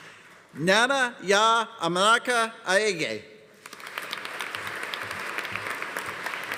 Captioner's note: audience applauding